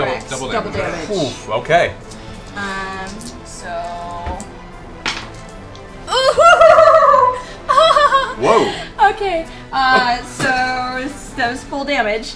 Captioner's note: laughs